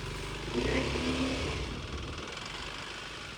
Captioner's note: motor rumbling